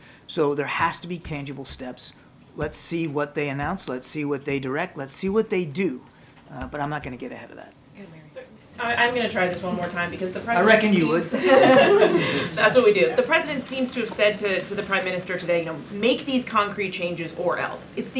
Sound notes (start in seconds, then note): 11.3 laughter